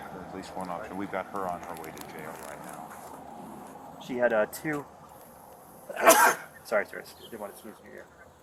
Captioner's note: sneezes